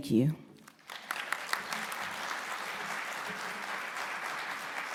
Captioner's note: audience applauding